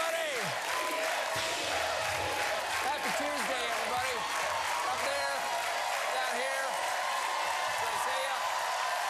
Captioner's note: cheers and applause